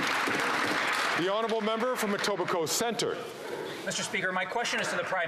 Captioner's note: some Applause